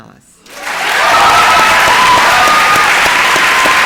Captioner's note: applause and cheering